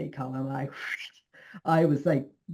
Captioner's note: imitates wind